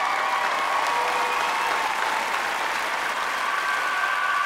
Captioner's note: clapping and cheering